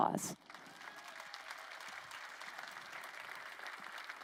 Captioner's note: crowd applauding